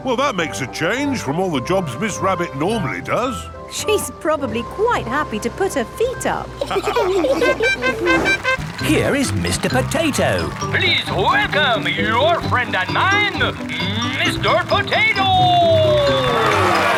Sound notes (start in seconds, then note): 6.6 all laughing; 8.1 horn tooting